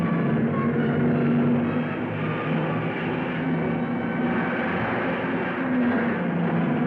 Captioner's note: cars revving; dramatic music